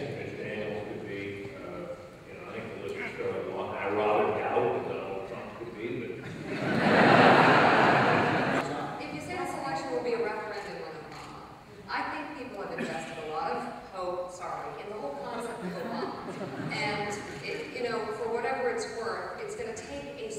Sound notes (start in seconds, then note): 6.2 laughter